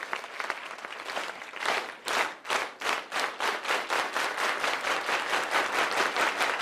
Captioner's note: unity clap